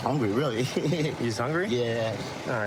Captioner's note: laughing